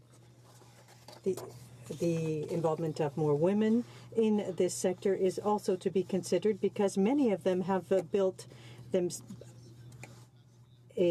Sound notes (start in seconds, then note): 3.4 speaking French